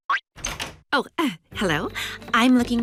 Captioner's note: door opens